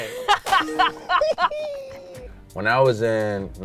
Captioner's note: both laughing; hands clapping; phone pinging